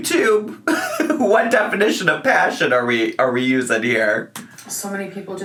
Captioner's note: laughs